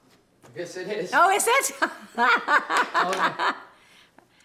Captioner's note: laughs